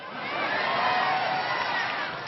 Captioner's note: applause